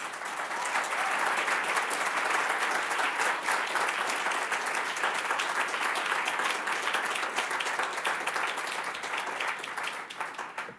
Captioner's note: applause